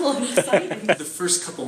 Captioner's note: laughing